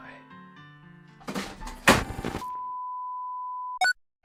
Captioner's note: TV noise; crashing noise